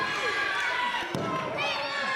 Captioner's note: audience yells; thudding; audience shouts